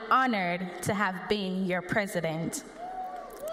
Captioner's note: cheers and applause